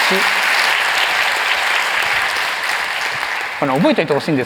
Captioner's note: applause